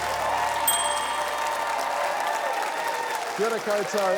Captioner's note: ding!